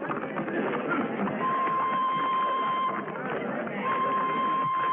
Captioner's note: whistle trills